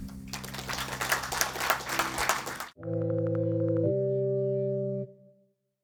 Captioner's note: applause